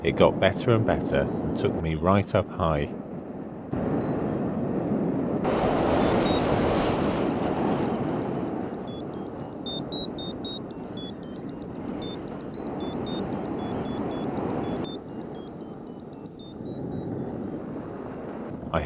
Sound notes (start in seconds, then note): 5.6 vario beeping